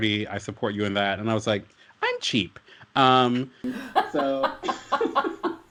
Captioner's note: gasps and laughter